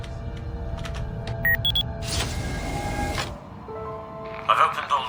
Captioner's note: keys clacking